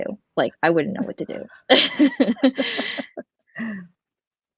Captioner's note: laughs